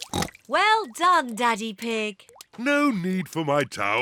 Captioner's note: oinks